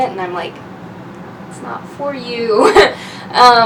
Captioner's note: laughs